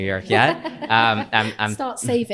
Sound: audience chuckling

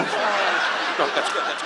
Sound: audience laughs

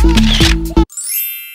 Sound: camera click; chime

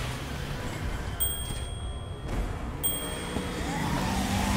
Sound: bell rings

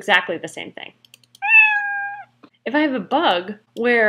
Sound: meow

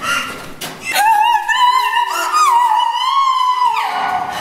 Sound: scream-crying

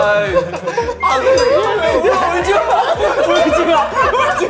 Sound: crying

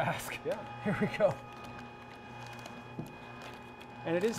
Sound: machine roaring

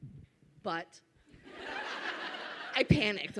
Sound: audience laughs

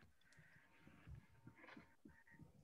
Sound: none

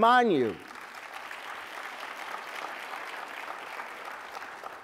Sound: applause

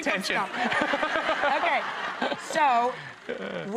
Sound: audience laughter

